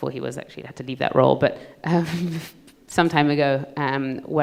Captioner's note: chuckles